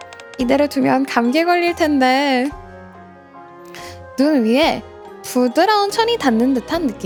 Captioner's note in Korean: 콧방귀